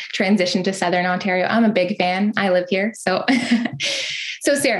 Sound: laughs

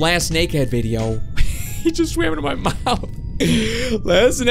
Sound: laughs

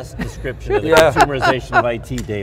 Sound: laughing

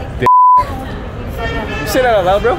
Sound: beep

